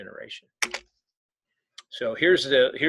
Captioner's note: keyboard clicking